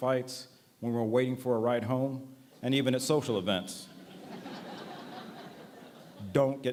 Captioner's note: laughter